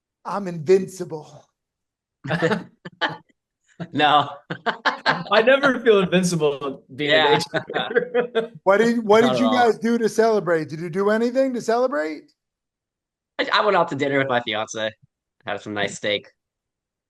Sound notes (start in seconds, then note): 2.2 laughs